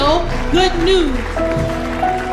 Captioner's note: congregation applauding